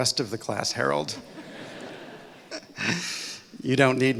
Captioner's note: laughter